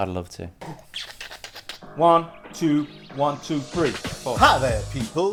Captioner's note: beatboxing